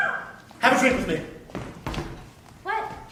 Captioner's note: none